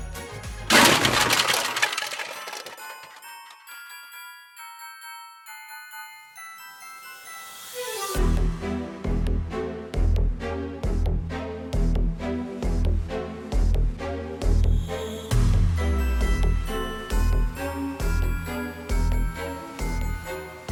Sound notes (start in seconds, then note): 0.7 tin clatters